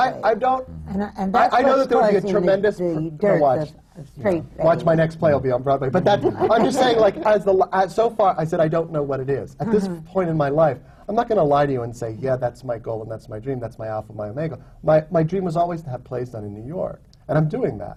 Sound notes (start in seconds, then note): 5.9 laughter